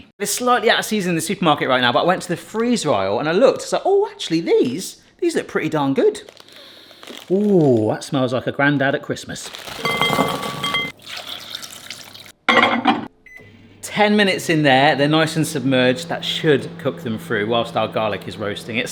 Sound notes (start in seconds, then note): 9.4 frozen sprouts banging; 10.9 water splashing